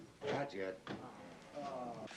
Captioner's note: all sighing